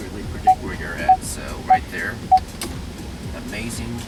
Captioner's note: rear Parking Sensor Beep